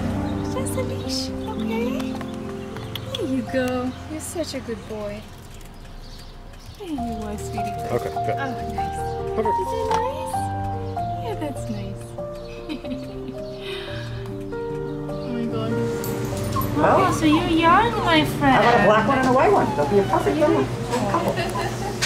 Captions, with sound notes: It's just a leash, okay? [Tongue clicks] There you go. You're such a good boy. There you are sweetie pie. Okay, good. Oh my gosh. Perfect. Is that nice? Yeah that's nice. [Laughter] Oh my God. So you're young my friend. How about a black one and a white one? That be a perfect couple. [Laughter]